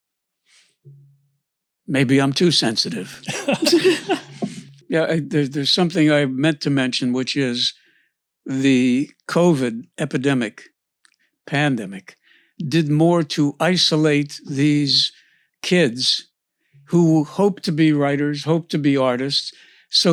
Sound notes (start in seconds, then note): 2.6 laughs